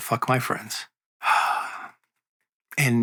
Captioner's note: exasperated SIGH